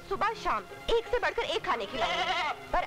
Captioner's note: Sheep bleats